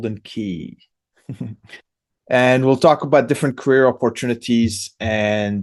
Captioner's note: laughs